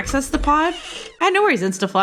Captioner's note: squeaking door hinge